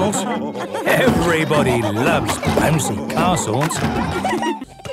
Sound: laughter

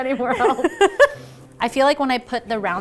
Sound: laughing

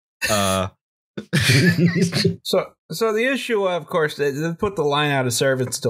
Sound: laughter

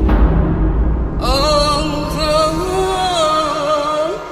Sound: sad vocalizing

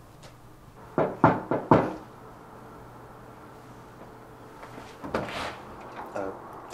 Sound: Eddie thuds; knocks

